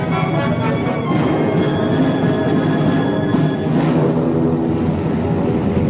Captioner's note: plane engine roaring